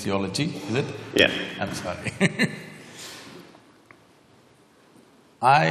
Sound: laughs

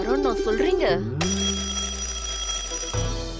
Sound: alarm ringing

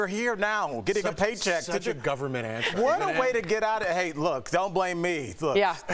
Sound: laughter

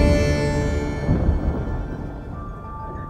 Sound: distant thunder

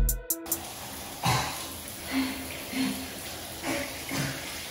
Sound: upbeat music; coughs; spits

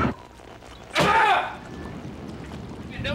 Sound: radio static; yelling

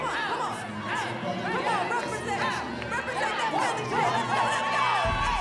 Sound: audience cheering

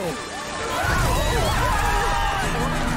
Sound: screaming

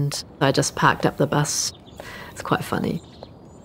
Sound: birds chirping

